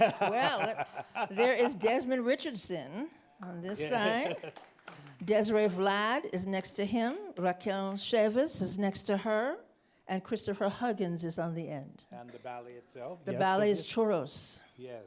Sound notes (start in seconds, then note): 0.0 laughs; 3.9 chuckles